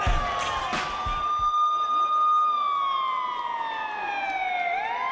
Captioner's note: siren wailing